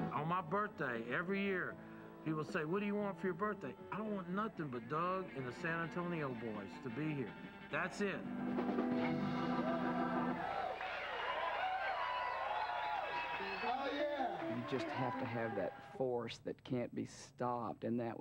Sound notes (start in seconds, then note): 9.0 crowd applauding